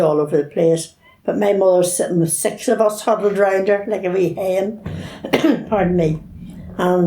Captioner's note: coughs